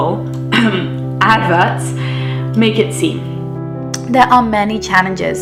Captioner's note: clears throat